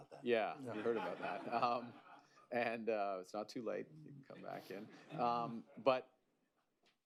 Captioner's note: laughter; laughter